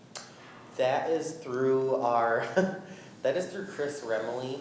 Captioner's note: laughs